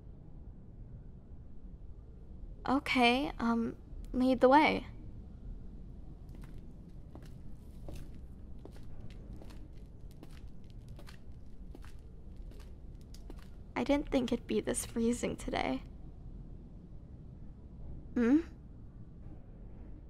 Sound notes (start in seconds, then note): 6.2 sound: Walking; 7.0 sound: Cool breeze